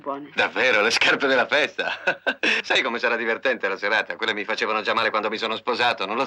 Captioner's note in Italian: risate